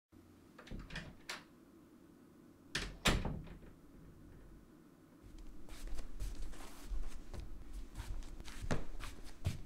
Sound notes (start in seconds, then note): 0.4 door opens and closes; 5.2 footsteps